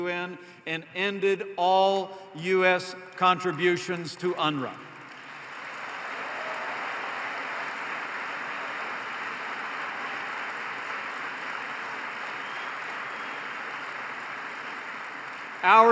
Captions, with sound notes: and ended all U.S. contributions to UNRWA. (applause) Our administration will never